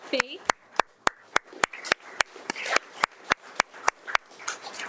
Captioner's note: audience applauding